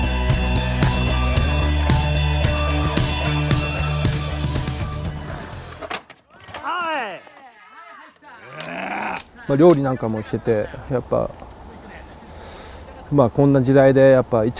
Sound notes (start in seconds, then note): 8.2 grunts; 9.6 speaking in foreign language